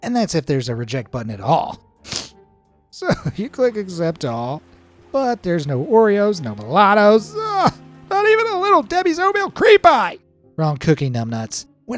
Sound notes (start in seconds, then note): 2.0 sniffs; 7.2 sobbing